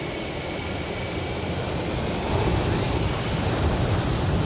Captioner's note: plane engines accelerating